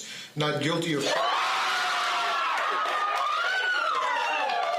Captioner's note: screaming and cheering